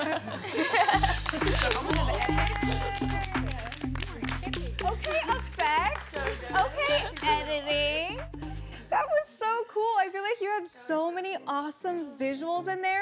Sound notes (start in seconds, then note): 0.7 laughing